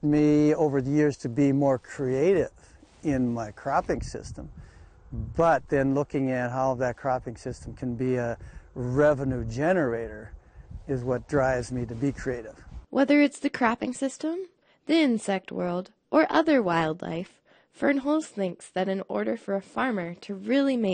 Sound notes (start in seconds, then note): 13.5 voiceover